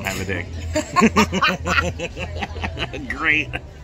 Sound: laughing

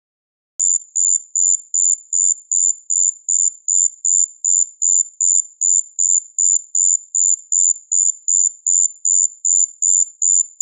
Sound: sound of cricket

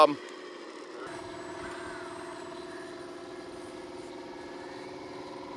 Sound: machinery engine revs

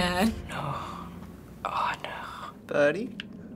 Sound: hushed

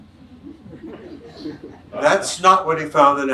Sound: audience chuckles

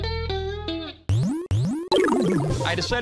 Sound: video game sounds

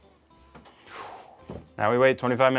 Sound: sighs

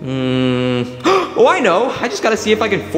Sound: Mario gasping

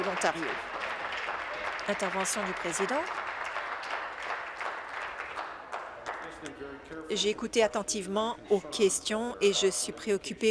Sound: applause

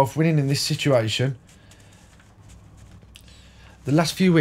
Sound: silence

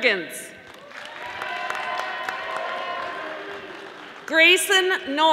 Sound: audience applauding

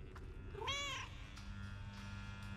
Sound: cat meows

